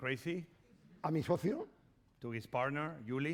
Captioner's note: speaking spanish